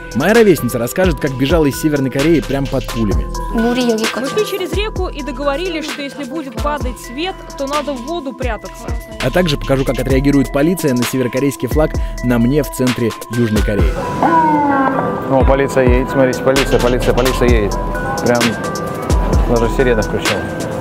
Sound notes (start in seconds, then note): 13.9 police siren